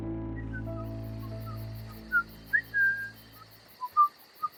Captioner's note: David whistling